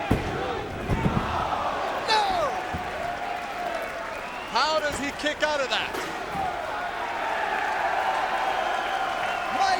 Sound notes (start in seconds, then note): 0.1 hand pounding; 1.3 crowd exclaiming; 6.5 crowd cheering